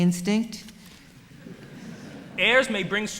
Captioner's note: laughter